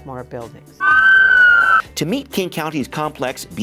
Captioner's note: sirens wail